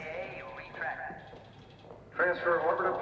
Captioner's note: footsteps